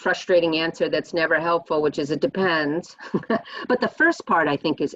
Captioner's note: chuckles